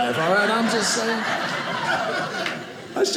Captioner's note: audience laughing